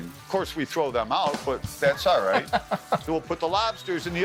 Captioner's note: laughing